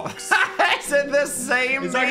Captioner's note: Dan laughs